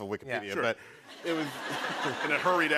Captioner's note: laughter